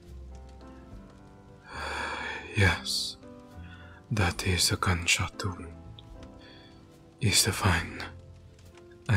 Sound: sighs

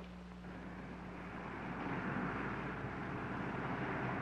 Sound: car engine humming

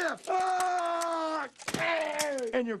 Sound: yelling

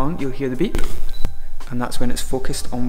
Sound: beep

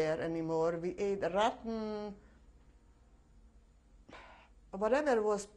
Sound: pauses for 3 seconds

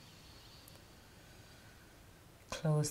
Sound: inhaling

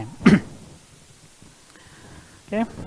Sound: coughs

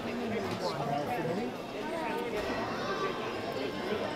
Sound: background chatting

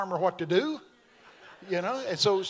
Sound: congregation laughing

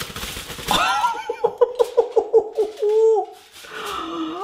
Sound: laughing

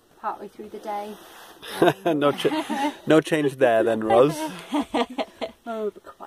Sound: laughs

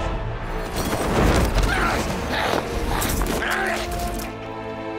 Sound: critter noises

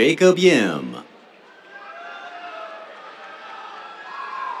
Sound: cheers

